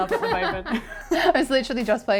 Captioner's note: laughs